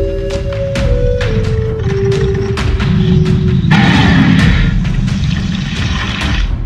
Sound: carnotaurus growls

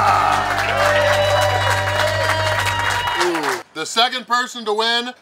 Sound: cheering & Clapping

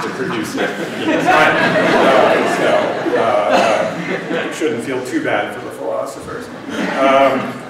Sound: laughter

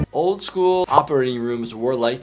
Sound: none

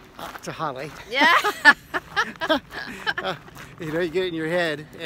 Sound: laughs

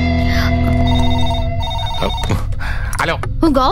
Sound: phone rings

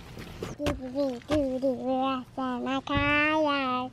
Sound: babbles

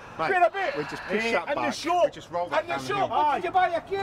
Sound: arguing; arguing continues

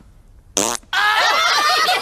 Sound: blows Raspberry; laughing

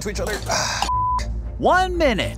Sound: beep

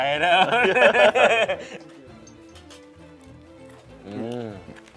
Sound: laughter

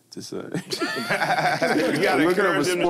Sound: all laugh

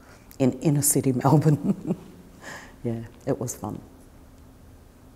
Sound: chuckles

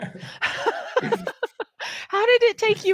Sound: both laughing

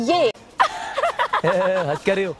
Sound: laughing

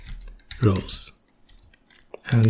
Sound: typing

